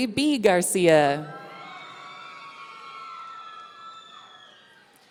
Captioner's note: audience cheering